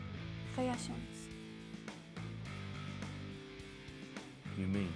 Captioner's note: speaking foreign language